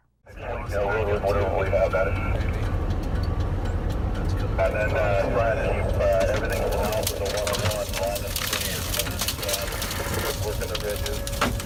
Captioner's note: radio audio